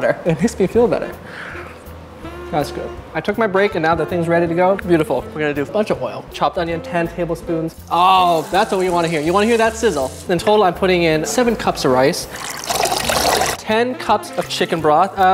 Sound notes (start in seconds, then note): 7.8 onions sizzling; 12.2 broth splashing